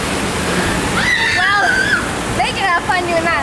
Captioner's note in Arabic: صراخ سيدة